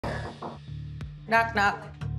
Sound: knocking

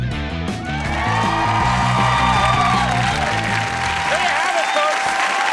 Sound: audience cheering

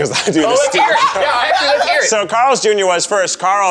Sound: laughs

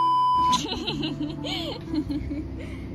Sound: laughter

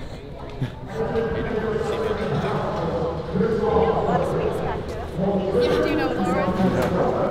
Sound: talking on a microphone in the background

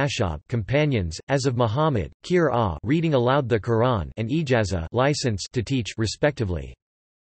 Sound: 'reading aloud the Qur'an'

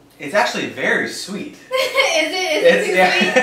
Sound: laughs

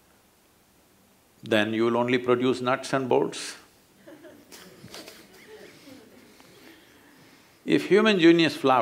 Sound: laughter

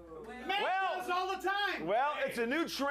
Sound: audience shouts

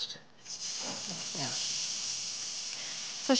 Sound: sizzling

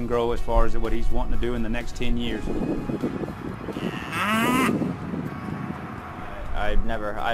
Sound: wind blowing ‚Äì cow moos

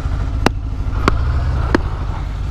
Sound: clap

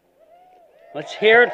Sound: cheering

